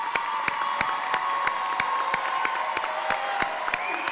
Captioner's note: audience applauding; audience cheering